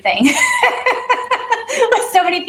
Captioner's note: laughter